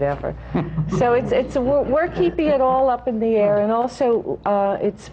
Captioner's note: laughter